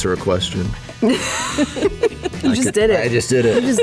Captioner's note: laughter